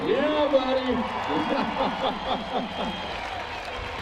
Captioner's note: laughs